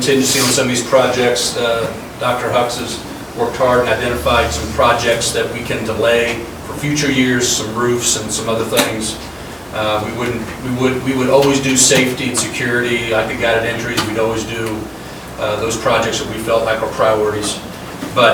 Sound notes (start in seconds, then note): none